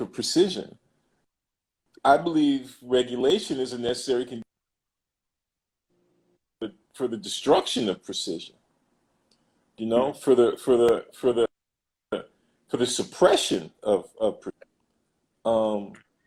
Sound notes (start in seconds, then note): 11.7 glitch